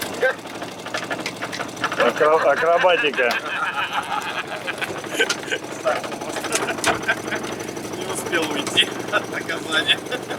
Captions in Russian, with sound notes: Акробатика. (смеются) За хвост. Не успел уйти. Наказание. (смех)